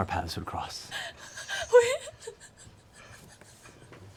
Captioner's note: laughing